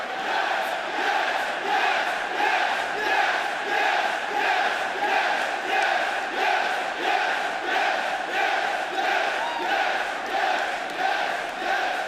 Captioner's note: fans chanting